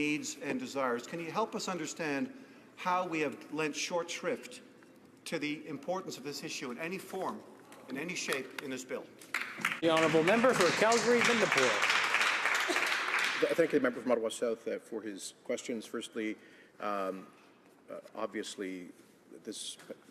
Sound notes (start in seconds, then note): 14.7 applause